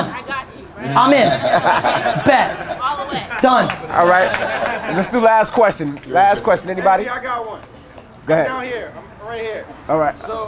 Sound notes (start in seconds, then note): 0.8 audience laughter; 4.2 audience clapping